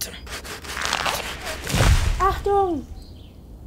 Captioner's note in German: Baum fällt